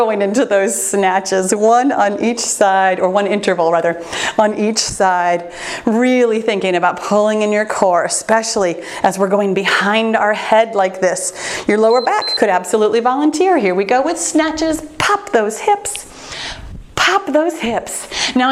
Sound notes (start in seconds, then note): 11.8 timer beeps